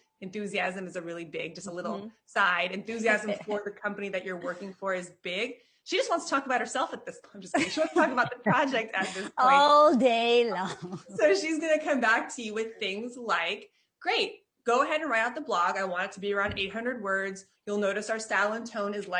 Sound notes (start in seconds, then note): 7.5 laughing; 10.5 chuckles